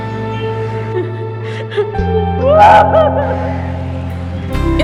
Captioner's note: screaming in pain